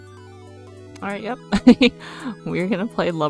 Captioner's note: laughs